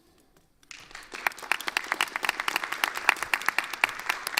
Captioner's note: audience applauds